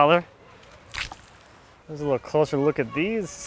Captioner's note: water splashing